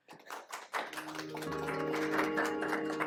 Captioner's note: applause